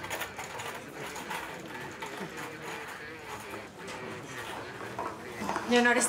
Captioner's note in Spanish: ruido de la camilla